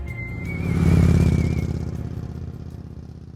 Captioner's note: bright music; motorcycle engine sounding